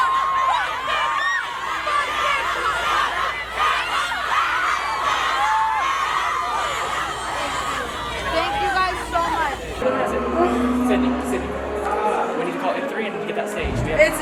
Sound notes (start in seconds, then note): 3.4 crowd